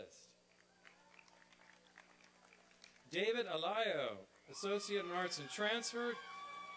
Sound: applause

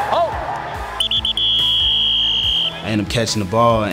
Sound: whistle

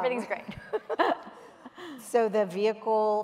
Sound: laughter

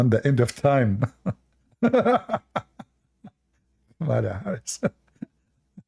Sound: Ketawa

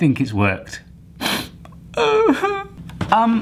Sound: whimpering

